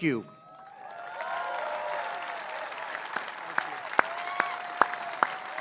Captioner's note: applause